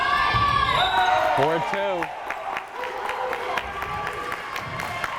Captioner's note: crowd cheering